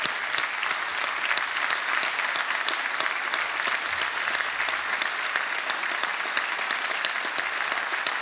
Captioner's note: applause